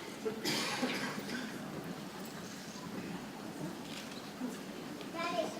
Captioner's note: people chattering softly